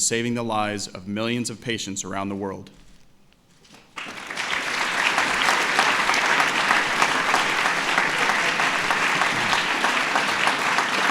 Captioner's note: applause